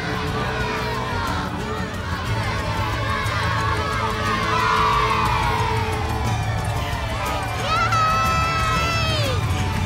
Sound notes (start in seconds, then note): 4.5 crowd cheers